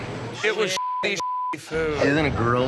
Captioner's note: beep